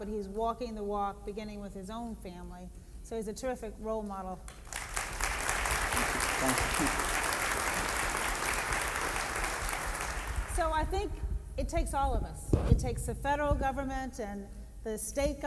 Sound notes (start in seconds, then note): 4.5 applause